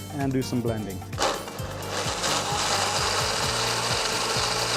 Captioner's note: whirring